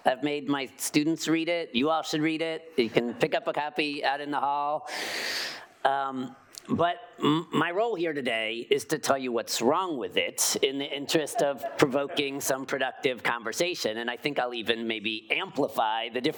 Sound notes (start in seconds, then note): 11.3 audience chuckling